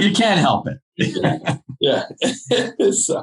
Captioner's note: laughing